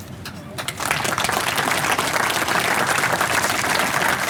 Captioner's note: audience applauds